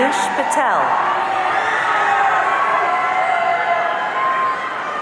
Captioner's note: audience cheering